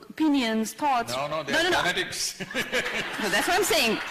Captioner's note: laughter